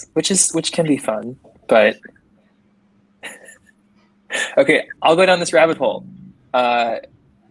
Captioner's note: chuckles